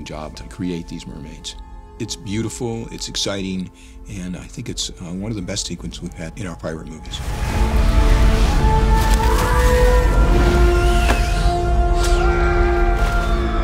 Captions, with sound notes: to create these mermaids. It's beautiful, it's exciting, and I think it's one of the best sequences we've had in our Pirate movies. [mermaids shrieking] [yelling]